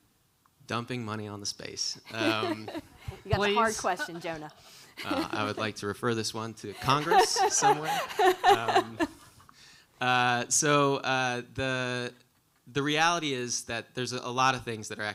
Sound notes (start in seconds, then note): 2.1 laughing; 6.7 laughing